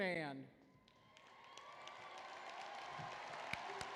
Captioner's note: applause